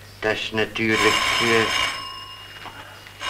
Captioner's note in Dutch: de telefoon gaat